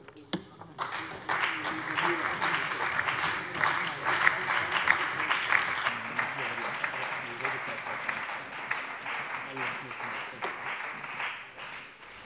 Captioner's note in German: Allgemeiner Beifall